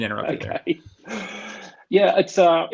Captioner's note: laughing